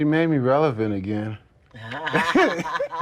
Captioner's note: laughter